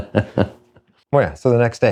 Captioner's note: laughs